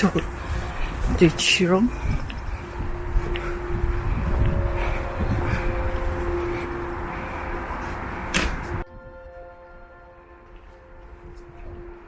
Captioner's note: Mandarin